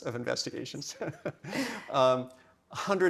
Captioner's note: both chuckling